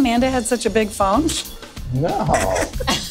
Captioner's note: laughs